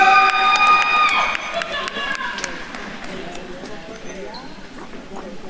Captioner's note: attendees cheering and applauding